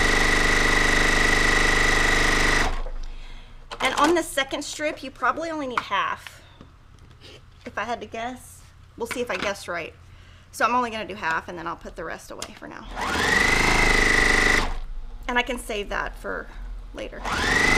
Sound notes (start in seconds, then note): 12.9 sewing machine roaring; 17.2 sewing machine roaring